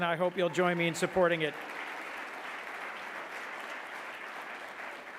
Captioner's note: audience clapping